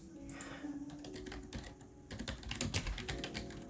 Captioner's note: hella loud keyboard clacking